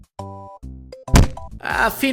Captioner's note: slam